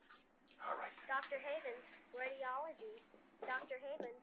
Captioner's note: woman on PA